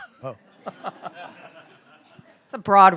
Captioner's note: laughter